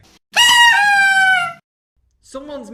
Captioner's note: party popper